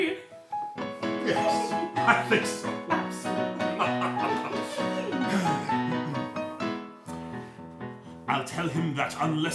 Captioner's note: laughter, inaudible speech